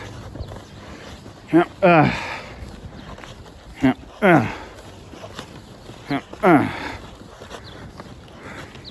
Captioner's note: grunts as she walks to the dumpster